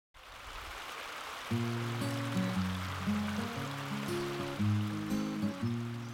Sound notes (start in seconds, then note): 0.9 birds; 2.0 flowing stream